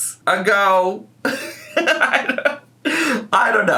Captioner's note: laughing